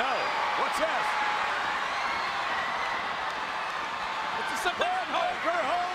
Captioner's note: crowd cheers